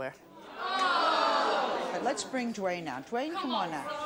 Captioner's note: audience jeers